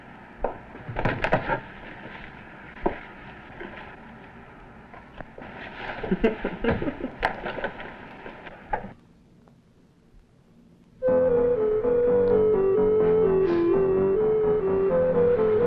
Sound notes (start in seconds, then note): 5.9 laughing; 11.0 subdued music